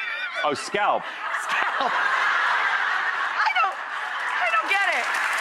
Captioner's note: audience laughing; audience applauding